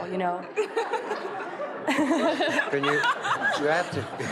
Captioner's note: laughs